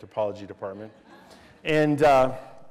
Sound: laughter

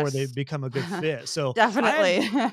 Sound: laugh

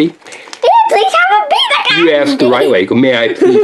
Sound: in a silly voice

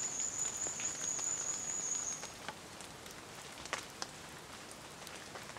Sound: rainfall

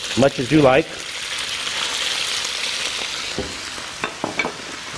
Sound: oil sizzling

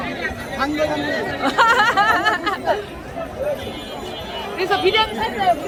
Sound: laughs

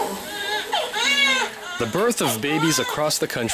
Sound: newborn baby cries loudly

